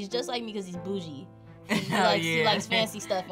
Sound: laughs

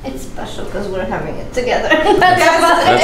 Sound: laughs

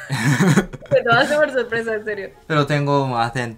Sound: Spanish

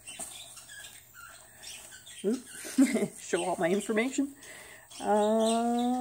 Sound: short laugh

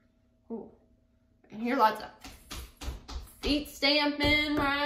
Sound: feet stamping

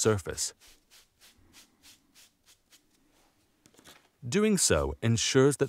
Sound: sponge scratching

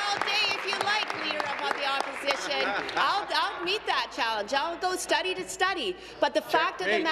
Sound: applause

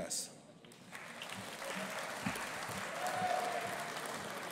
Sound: audience applauding

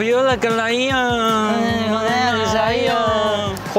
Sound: humming out of excitement

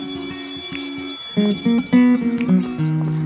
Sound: school bell ringing

